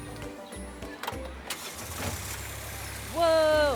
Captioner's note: engine purring; ignition clicking